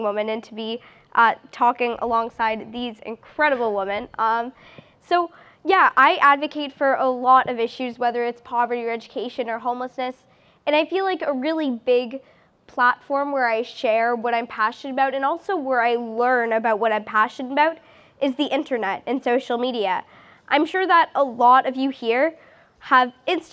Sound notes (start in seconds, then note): none